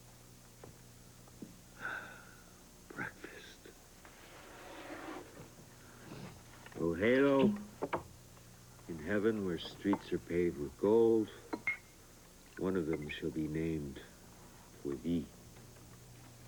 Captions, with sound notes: ( sighs ) BREAKFAST. ROGELIO... IN HEAVEN, WHERE STREETS ARE PAVED WITH GOLD ONE OF THEM SHALL BE NAMED FOR THEE.